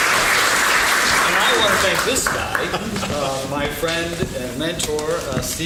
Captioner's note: laughs